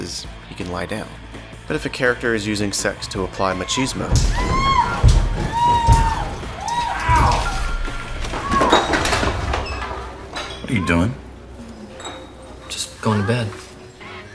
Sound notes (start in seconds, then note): 4.1 squealing; 4.1 thumping